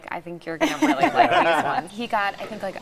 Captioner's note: laughing